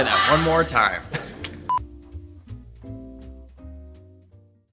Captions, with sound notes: - Try that one more time. (beeping)